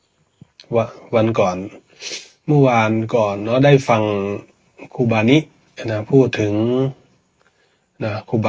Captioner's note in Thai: เสียงสูดหายใจ